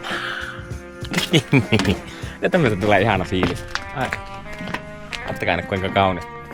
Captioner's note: laughter